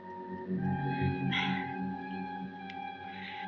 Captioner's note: gasps